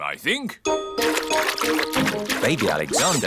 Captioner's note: splashing